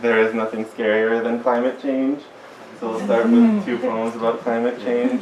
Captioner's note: agreement and brief giggles